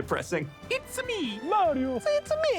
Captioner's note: imitating Mario